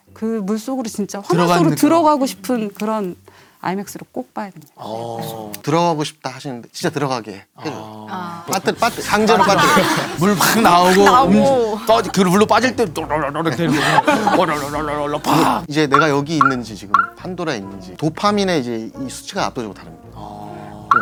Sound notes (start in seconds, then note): 13.7 gurgle gurgle; 15.0 gurgle gurgle gurgle; 15.2 splutter!; 15.6 that gurgling sound is hilarious, LOL